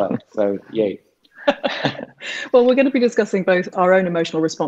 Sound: she laughs

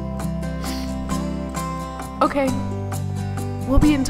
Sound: sniffles

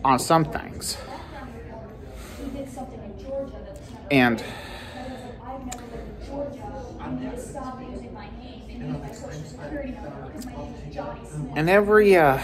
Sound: students chattering

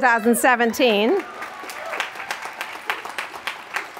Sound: applause

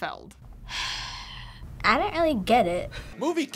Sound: sighs

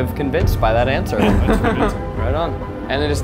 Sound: laughs

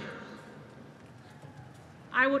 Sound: applause

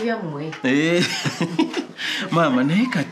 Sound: laughter

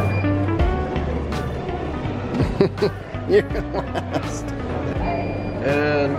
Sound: laughing

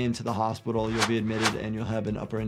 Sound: text whooshes

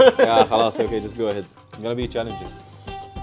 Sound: speaks foreign language

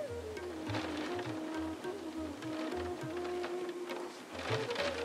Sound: sounds of the rain; indian music

